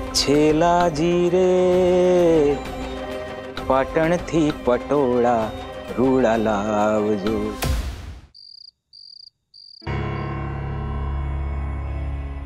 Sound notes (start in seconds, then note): 8.3 crickets chirping; 9.8 tense music